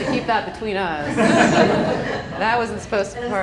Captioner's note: laughing